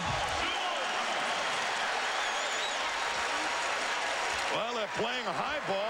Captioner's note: applause